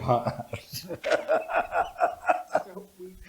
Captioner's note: laughter